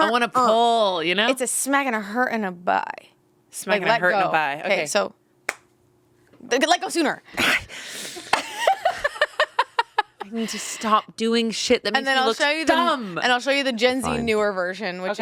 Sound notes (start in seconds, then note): 8.2 laughing